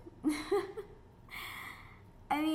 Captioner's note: laughs